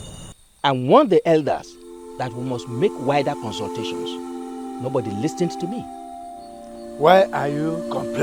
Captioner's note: bell